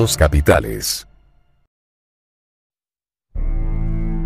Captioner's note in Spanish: silencio y pantalla en negro